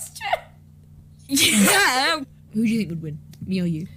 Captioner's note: nervous laugh